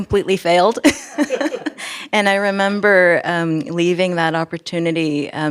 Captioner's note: laughs